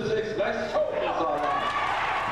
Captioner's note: applause